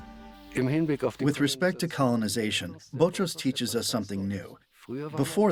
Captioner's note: in German